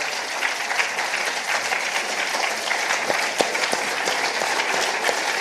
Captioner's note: participants applauding